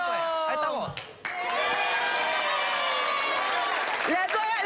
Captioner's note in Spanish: Aplausos